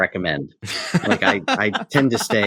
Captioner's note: laughs